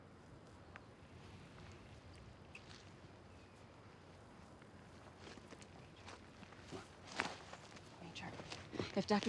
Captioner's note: footstep